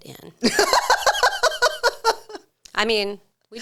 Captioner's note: laughs